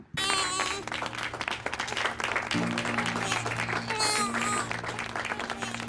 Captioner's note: crowd clapping; baby crying